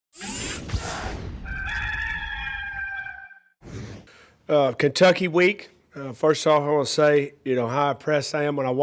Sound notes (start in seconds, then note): 0.2 whooshing; 1.4 cock crowing